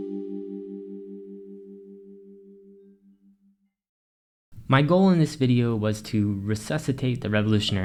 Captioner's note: transition Ding